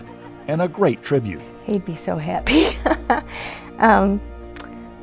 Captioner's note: laughing